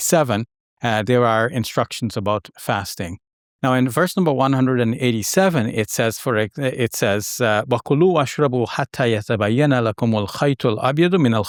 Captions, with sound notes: there are instructions about fasting. Now in verse number 187 it says, (speaking in Arabic).